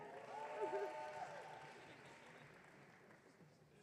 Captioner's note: audience cheering